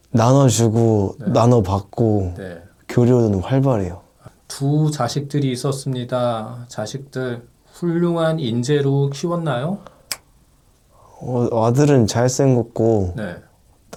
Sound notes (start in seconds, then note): 10.0 snap!